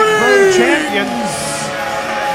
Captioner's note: crowd noise; upbeat music